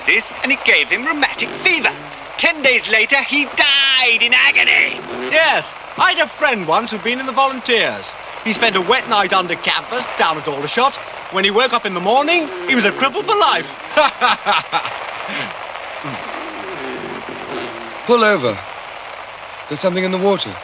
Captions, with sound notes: and it gave him rheumatic fever. Ten days later he died in agony! Yes. I had a friend once who'd been in the Volunteers. He spent a wet night under canvas down at Aldershot. When he woke up in the morning he was a cripple for life. (LAUGHING) Pull over. There's something in the water.